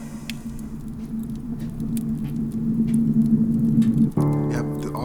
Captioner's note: torch hissing; fire crackling